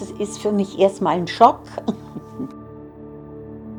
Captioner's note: giggles